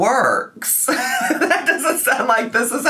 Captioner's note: laughs